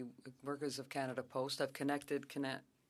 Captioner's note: speaking French